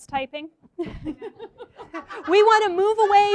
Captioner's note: laughs